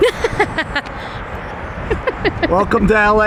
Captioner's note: laughs